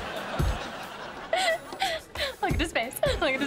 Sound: laughing

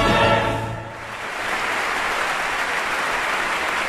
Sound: applause

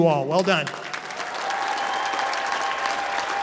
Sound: applause

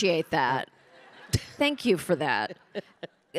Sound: audience laughing; Pamela chuckling

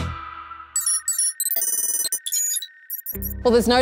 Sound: beeping

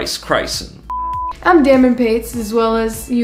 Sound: screen beeps

